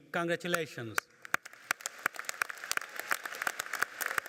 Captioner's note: applauding